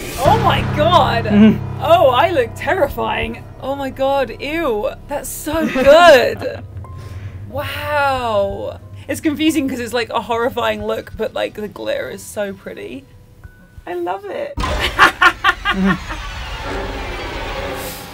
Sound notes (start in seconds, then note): 5.6 laughs; 14.8 cackles